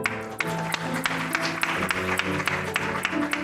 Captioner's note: applause